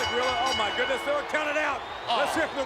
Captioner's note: bell ringing